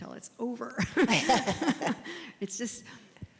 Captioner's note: laugh